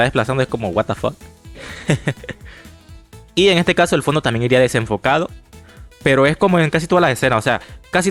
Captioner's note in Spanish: risas